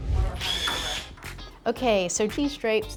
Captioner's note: drill whirs